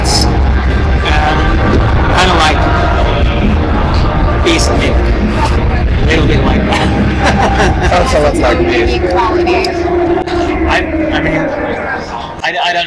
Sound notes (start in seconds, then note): 6.6 laughs